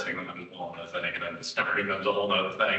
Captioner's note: mic audio crackling